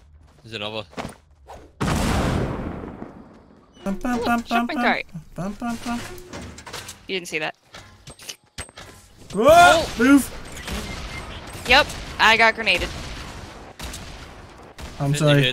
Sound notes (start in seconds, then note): 1.8 explosion; 10.5 Fortnite death sound; 13.1 explosions